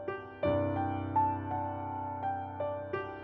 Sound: none

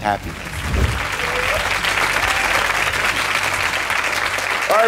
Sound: audience applauds

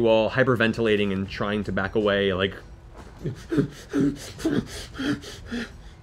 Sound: panting

